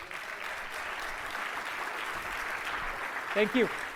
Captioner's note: applause